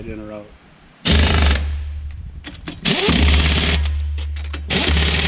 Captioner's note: impact wrench whirring